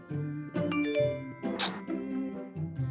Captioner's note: frustrated Sigh!